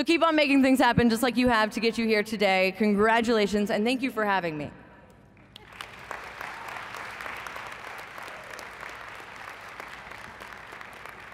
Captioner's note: applause